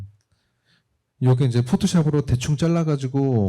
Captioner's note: speaking korean